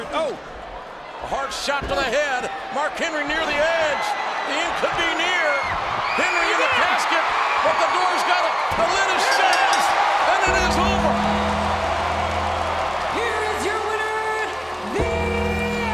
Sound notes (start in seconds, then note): 6.9 audience cheers; 9.2 bell rings; 9.3 audience cheers; 10.4 ominous music